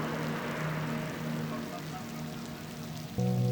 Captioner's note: waves crashing fades